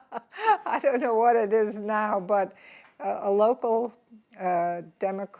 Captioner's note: laughs